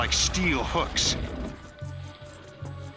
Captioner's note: growling; footsteps approaching